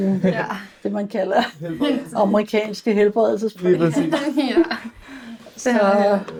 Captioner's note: laughs